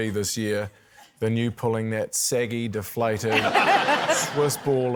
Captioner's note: laughter